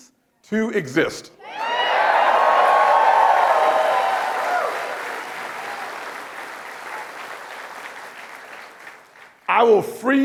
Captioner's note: applause and cheering